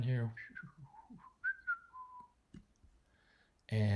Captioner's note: whistling